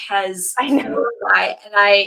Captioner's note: laughs